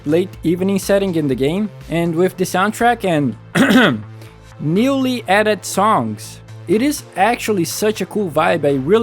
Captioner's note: ahem